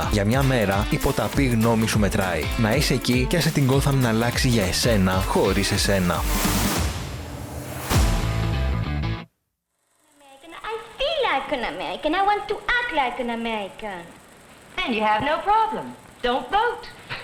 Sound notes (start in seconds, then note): 9.9 in French accent